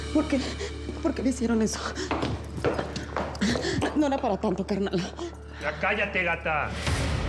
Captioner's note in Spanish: sollozando